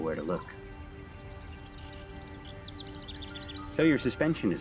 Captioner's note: birds chirping